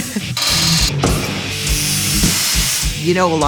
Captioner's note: metal grinding